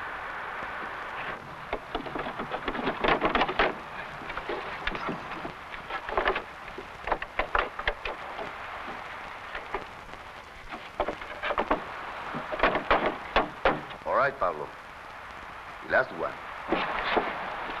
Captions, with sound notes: (boxes rattling) (handle pounding) - All right, Pablo. Last one.